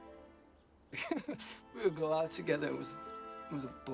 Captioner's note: laughs